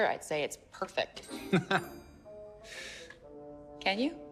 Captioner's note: chuckling